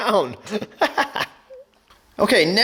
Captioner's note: laughs